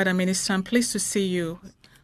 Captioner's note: speaking French